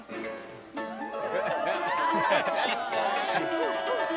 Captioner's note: people clamoring